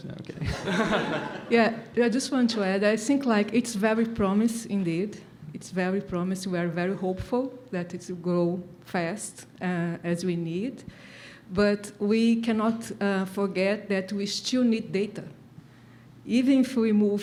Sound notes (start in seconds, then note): 0.4 laughs